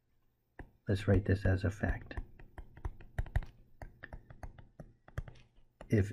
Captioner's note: tapping Sounds